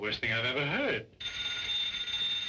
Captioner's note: phone ringing